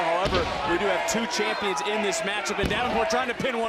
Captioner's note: crowd chants "mandy"